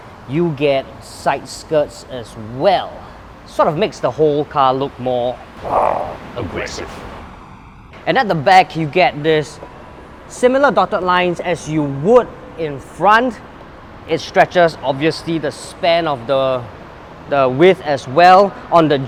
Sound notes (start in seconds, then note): 5.6 grrr